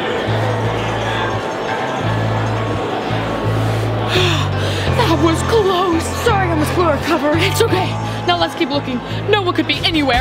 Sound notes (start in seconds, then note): 0.1 dramatic music; 4.0 gasps